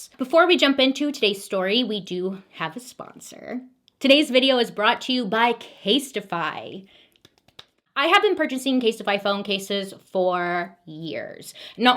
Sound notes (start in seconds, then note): 7.2 claps hands